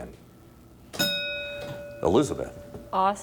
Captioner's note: bell dinging